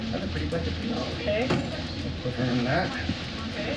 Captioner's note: chatter